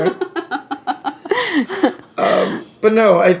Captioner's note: laughing